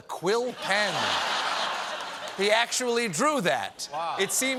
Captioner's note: laughter